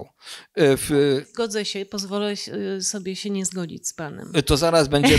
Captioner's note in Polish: śmiech